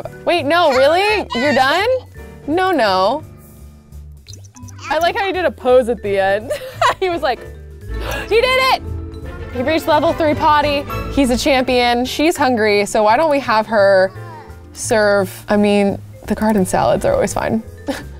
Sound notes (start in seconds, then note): 6.6 laughs; 8.0 gasps